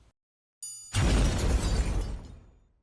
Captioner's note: triangle rings; explosion